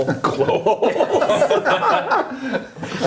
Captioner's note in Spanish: risas